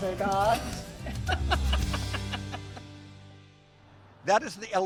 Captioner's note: laughs